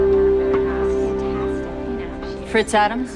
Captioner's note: indistinct chattering